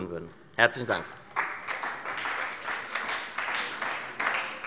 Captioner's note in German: Beifall bei der SPD